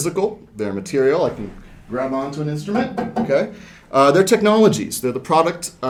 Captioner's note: knocking on banjo